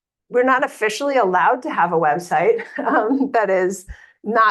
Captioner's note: laughs